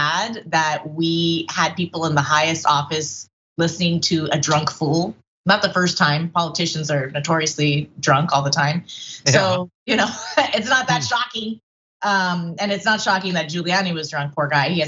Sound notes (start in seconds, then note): 9.1 laugh